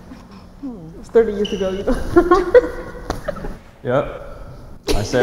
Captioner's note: laughs